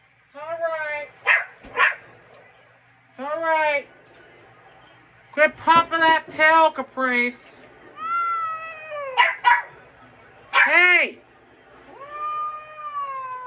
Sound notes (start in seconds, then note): 1.2 Ella barks; 8.0 meows in discomfort; 9.1 Ella barks; 10.4 slurred